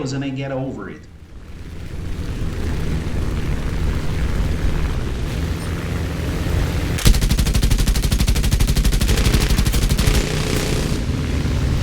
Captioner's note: aircraft Engines ,Gunfire, Flying Sounds